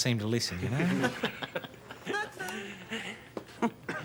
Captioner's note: men laugh